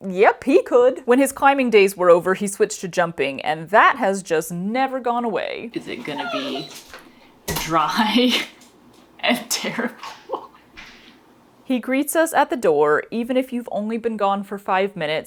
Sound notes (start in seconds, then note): 5.7 and a puppy whine; 10.8 laughing